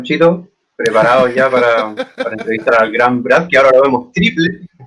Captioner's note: se ríe al escuchar PANCHITO